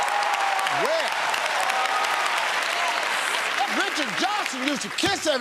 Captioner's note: cheers and applause